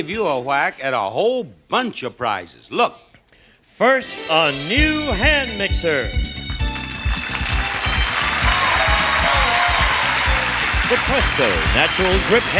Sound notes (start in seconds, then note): 3.4 relaxed music; 6.4 audience applauding